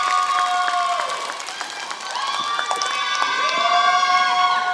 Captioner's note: applause